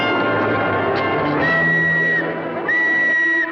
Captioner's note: blows whistle